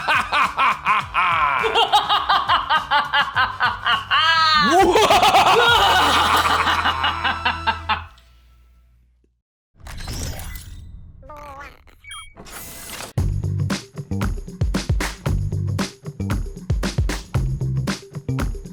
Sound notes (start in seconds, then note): 11.2 baby noises; 12.4 doors close